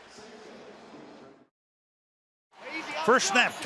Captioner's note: pa announcement